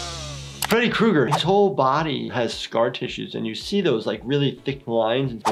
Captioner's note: none